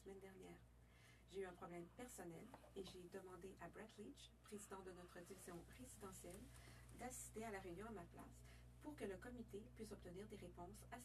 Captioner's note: speaking French